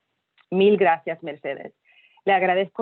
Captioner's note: spanish